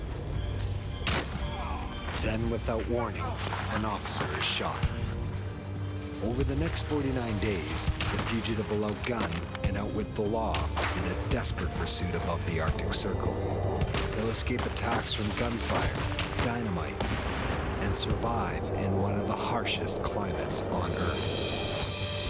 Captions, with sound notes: (guns fires) (groans) Then, without warning, an officer is shot. Over the next 49 days, the fugitive will outgun and outwit the law in a desperate pursuit above the Arctic Circle. He'll escape attacks from gunfire, dynamite and survive in one of the harshest climates on Earth.